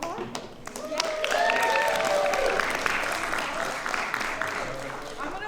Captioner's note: applause